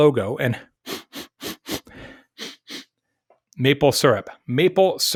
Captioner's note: sniffing